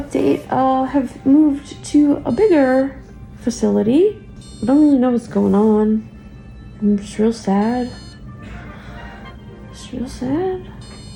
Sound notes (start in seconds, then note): 3.9 machine beeping; 10.9 machine beeping